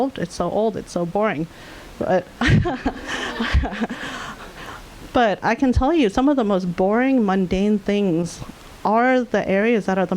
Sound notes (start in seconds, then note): 2.4 audience laughing